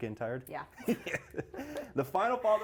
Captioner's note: laughs